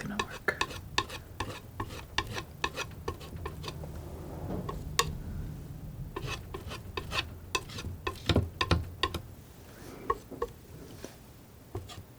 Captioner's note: tapping